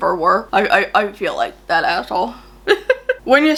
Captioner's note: laughs